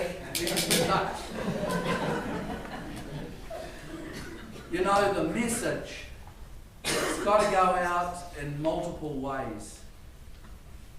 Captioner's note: laughter